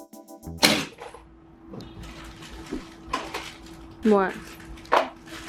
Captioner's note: drill hits wall